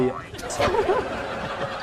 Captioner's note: laughs